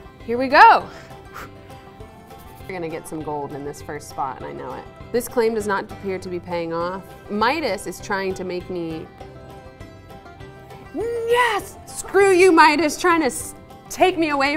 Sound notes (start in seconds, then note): 0.9 exhales sharply